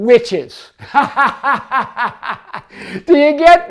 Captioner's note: laughs